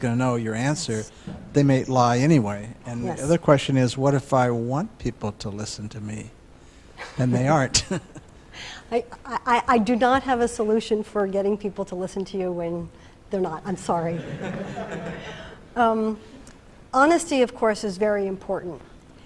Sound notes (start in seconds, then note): 14.1 laughter